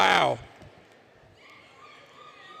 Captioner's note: indistinct Chatter; cheering